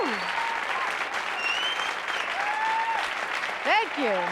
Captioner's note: applause cont; laughs; applause cont